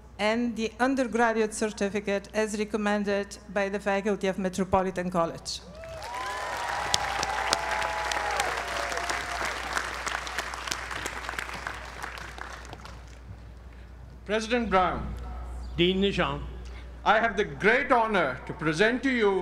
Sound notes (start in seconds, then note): 5.7 applause